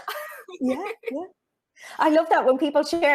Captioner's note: chuckles